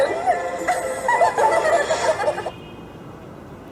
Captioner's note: both laughing